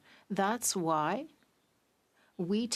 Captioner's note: speaking French